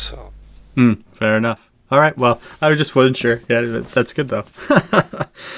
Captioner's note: laughs